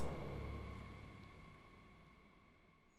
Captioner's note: click